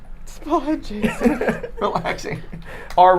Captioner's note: laughing